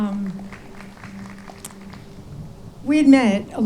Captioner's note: audience claps